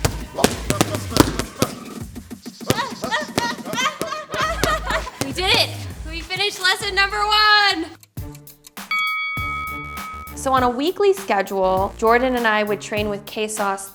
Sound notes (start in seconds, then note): 2.7 laughing